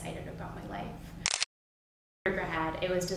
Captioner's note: camera clicks